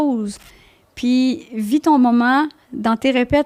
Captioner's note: in french